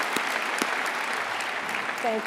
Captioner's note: applause